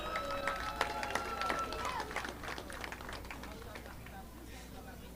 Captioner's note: audience applauding